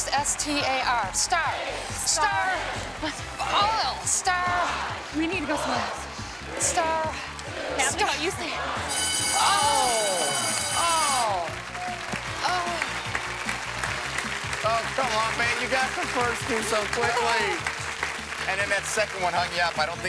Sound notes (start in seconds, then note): 8.9 bell ringing, both groan; 12.0 upbeat music